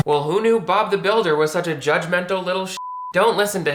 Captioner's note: beep